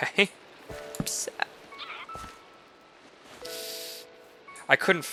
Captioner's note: sniffle